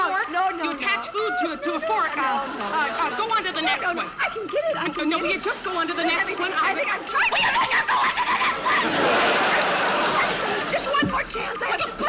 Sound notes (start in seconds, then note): 7.8 screaming; 9.0 audience laughing